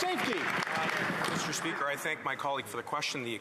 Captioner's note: applause